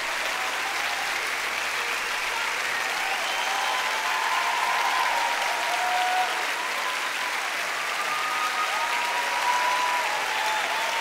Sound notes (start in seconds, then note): 4.7 cheers and applause